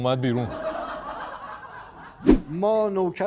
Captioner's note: laughter